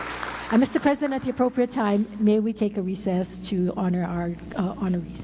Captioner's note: applause